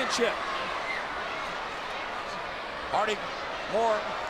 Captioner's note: audience chattering